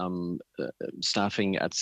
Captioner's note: speaking French